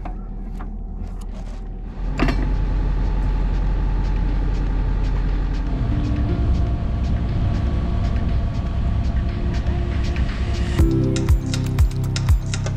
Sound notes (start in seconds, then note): 2.7 boat humming; 6.2 mellow music